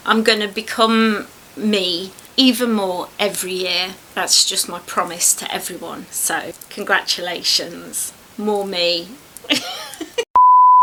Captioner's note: laughs